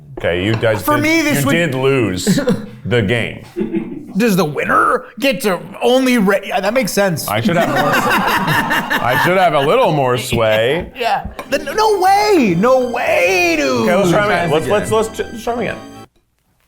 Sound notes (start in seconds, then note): 3.5 crew member chuckling; 7.2 all laughing